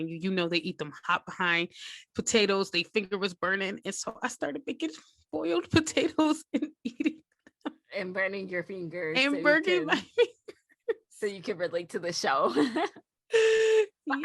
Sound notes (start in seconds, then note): 6.8 laughter; 12.5 laughter continues